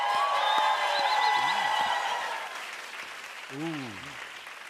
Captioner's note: cheers and applause